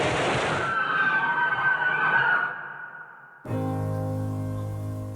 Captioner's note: guests screaming; gentle music